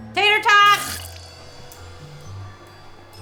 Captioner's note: awkward music; liquid sloshing; campers faintly chattering